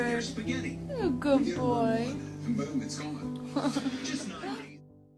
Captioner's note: laughs